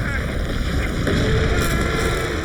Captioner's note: ground bursting; shark roaring; Adrian screaming